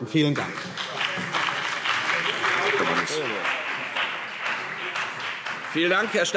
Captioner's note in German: Beifall CDU und BÜNDNIS 90/DIE GRÜNEN